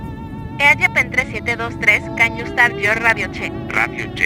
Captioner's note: speaking Spanish